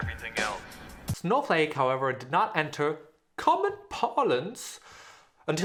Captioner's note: in a bad british accent